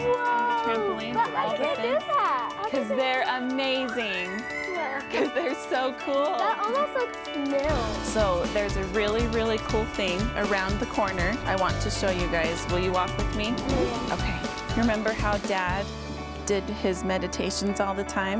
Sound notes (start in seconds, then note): 4.3 small child screams delightedly